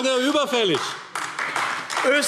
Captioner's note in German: Beifall AfD